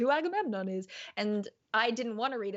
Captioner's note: mumbles softly